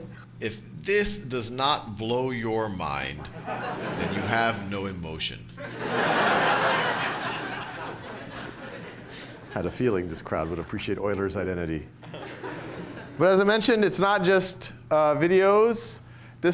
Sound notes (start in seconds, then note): 5.6 laughter